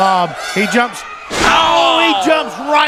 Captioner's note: thudding; both exclaiming